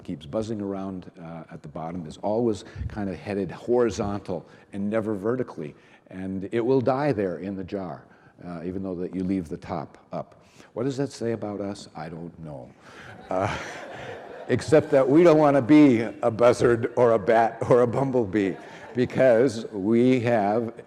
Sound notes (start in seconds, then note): 13.0 reverend and audience laughing